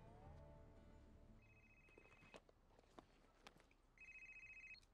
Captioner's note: phone rings